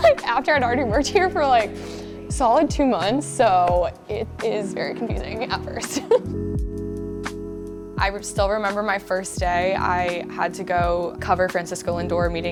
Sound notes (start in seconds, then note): 5.8 laughs